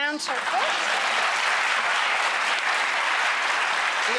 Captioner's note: applause